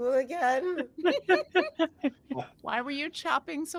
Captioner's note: cast members laughing